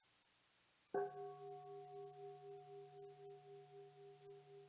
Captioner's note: bell dinging